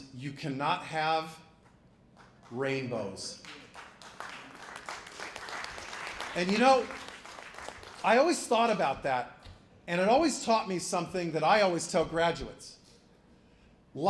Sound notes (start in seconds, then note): 3.3 applause